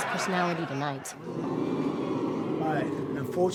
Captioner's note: audience oohing